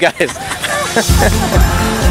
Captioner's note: laughing